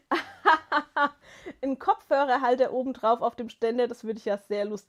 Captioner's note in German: gelächter